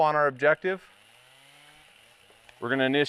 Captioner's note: chainsaw whirring